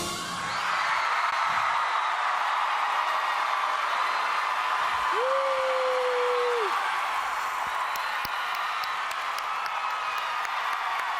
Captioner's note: applause